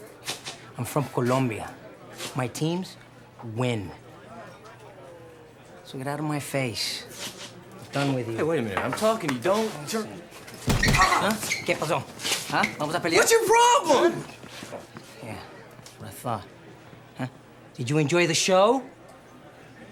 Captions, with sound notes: I'm from Colombia. My teams win. So get outta my face. I'm done with you. - Hey, wait a minute. I'm talking to you, don't turn... (Craig groans) (Rovira speaking in Spanish) - What's your problem?! - Yeah, what I thought. Did you enjoy the show?